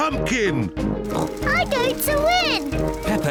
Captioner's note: snorts